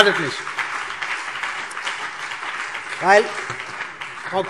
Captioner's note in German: Beifall CDU und BÜNDNIS 90/DIE GRÜNEN